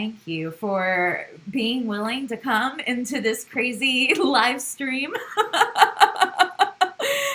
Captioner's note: laugh